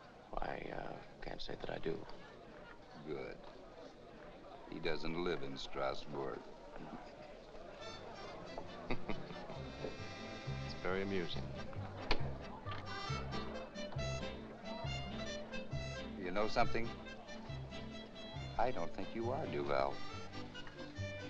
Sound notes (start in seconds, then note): 8.8 Charles chuckles; 12.0 jovial music; 12.0 door opens; 14.0 jovial music